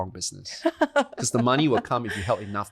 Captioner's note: laughs